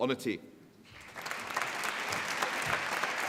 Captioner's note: applause